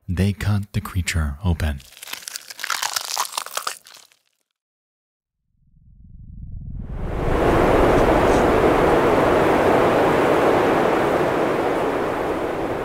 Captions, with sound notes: They cut the creature open. (crackling) (humming loudly)